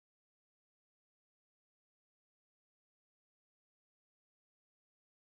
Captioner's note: Plane